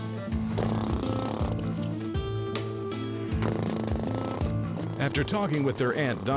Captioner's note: drilling